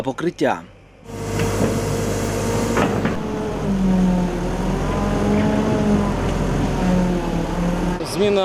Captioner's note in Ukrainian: звуки техніки